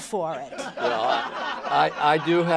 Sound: laughter

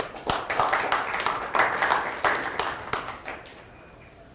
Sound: applause

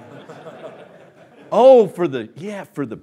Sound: laughing

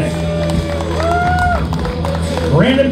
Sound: crowd cheers

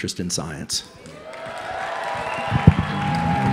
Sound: cheers

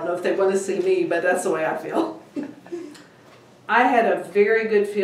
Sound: laughing

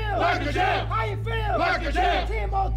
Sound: yelling

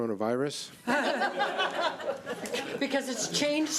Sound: board members laugh

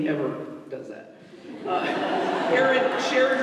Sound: laughter

